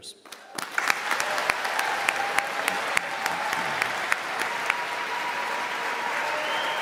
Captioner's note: audience claps and cheers